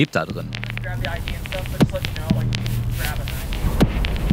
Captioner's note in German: Gesprächsausschnitte auf Englisch